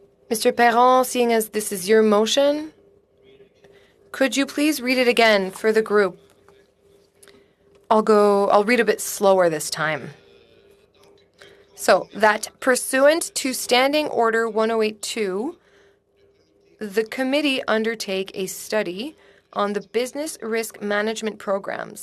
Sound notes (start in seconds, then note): 3.6 speaking French